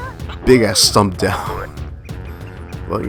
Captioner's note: chuckles